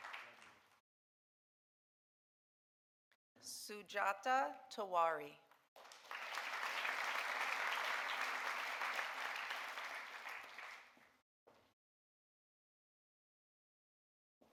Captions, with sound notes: Sujata Tewari. (audience applauding)